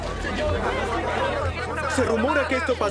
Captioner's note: chatter